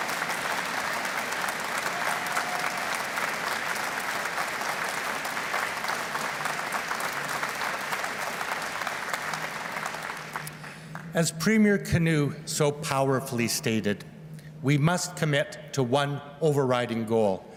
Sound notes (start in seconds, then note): 0.0 cheers and Applause; 2.3 whistling